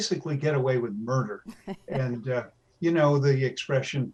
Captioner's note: laughs